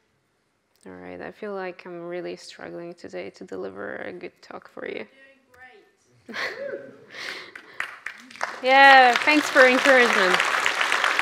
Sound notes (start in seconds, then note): 6.3 laughs; 6.5 audience cheers; 7.2 audience applauds